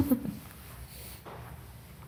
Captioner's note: giggles